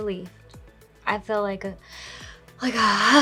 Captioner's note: sighs